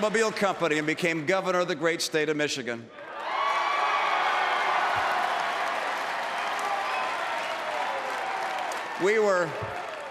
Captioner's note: applause; applause